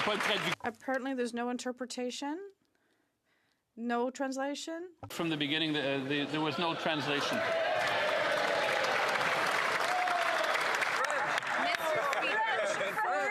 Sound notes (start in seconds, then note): 4.7 some Applause; 5.3 speaking French